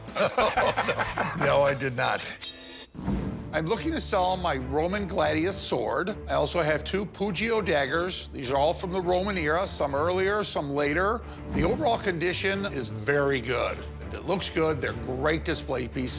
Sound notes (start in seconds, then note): 0.0 laughs; 2.2 swords clink